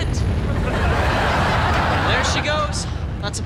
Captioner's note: audience laughs